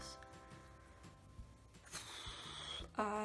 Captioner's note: sighs